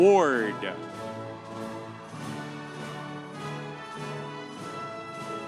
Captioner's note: audience cheering